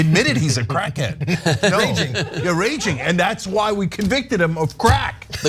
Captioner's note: laugh